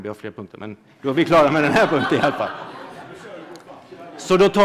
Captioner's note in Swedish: Skratt